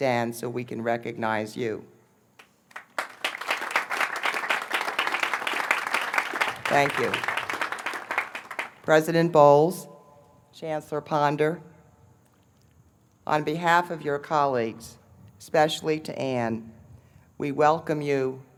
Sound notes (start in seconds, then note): 2.4 applause